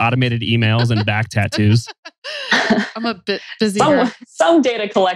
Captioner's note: laughs